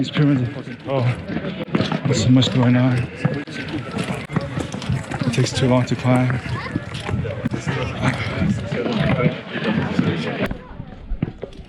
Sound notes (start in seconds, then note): none